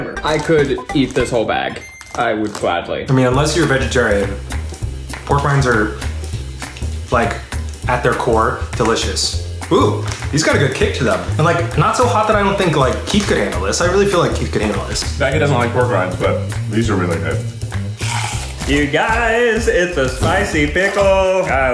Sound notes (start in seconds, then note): 17.9 crunching